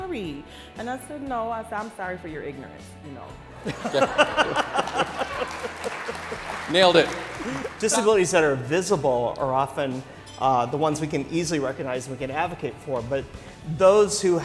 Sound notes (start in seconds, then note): 3.6 laughter